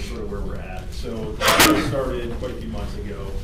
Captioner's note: sneeze